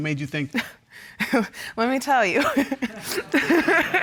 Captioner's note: laughs